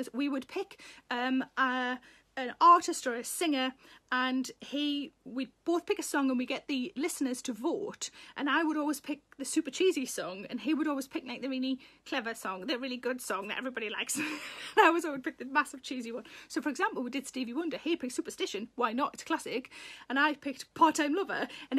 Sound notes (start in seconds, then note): 14.1 Sarah laughs